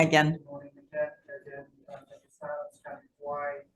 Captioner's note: faintly speaking